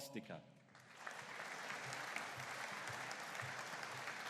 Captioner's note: audience applauding